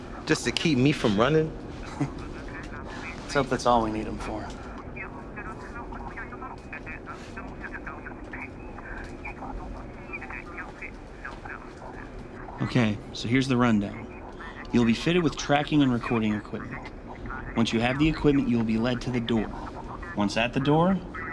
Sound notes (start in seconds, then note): 1.8 chuckles